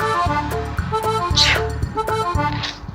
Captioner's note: sneezes